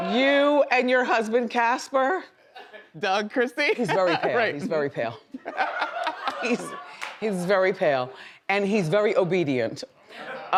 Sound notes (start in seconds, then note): 4.5 laughs; 5.4 audience laughs; 5.4 laughs